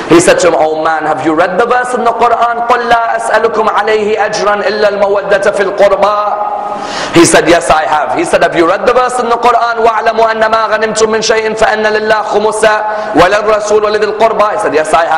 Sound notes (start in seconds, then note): 12.5 Recites Quranic Ayat